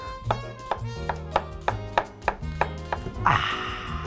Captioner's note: chopping onions; sighing